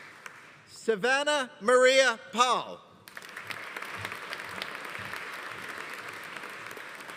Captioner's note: audience applauding